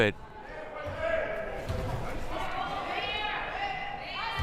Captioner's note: crowd murmuring